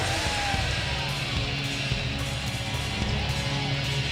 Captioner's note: audience cheers